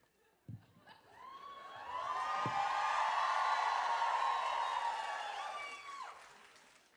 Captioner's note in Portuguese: audience cheering and applauding